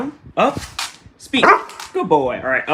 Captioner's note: bark